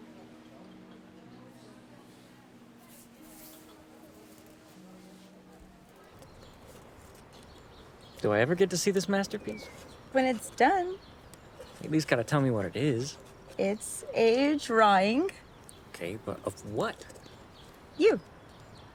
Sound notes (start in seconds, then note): 1.0 diners chattering; 6.5 birds chirping